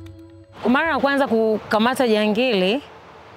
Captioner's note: she speaks in her language